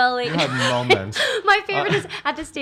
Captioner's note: laughs